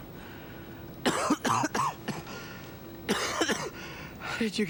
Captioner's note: Adam coughs